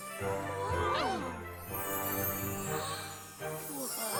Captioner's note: all exclaim